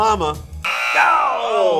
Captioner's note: buzzer